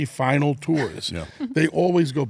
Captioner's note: chuckles